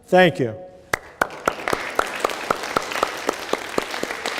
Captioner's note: applause